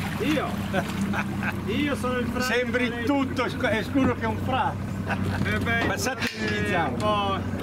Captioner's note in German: Unterhaltung auf Italienisch